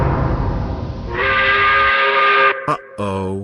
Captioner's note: angry work whistle